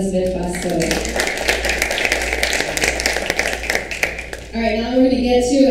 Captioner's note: audience applauds